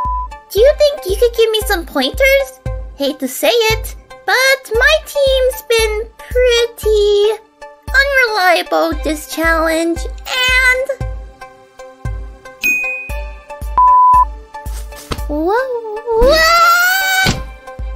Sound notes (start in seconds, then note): 13.7 exuberant beep; 17.2 slam!